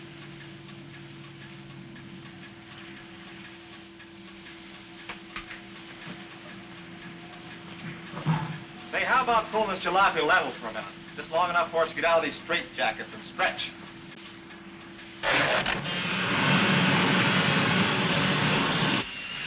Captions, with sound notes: - Say, how about pulling this jalopy level for a minute, just long enough for us to get out of these straitjackets and stretch. (machine whirring)